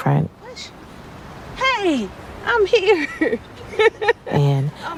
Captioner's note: laughs